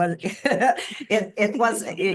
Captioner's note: laughing